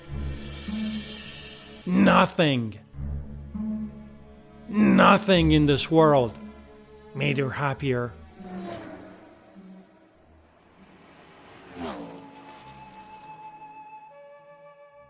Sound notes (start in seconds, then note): 0.0 tense cymbals music; 8.1 engines revving; 12.2 gentle music